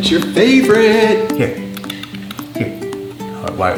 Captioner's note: clicks tongue